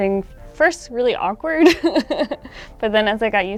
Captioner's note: laughing